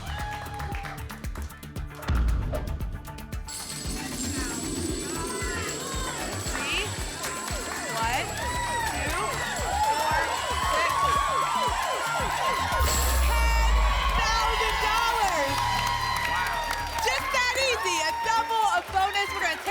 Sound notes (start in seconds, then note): 0.0 applause and cheering; 2.0 thump; 3.5 coins jingling; 11.4 sirens and cheering; 14.9 applause and cheering